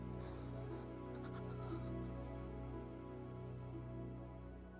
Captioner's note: quiet sobbing